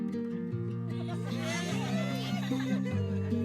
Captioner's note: cheers